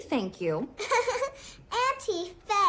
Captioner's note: laughs